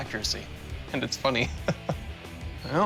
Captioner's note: chuckling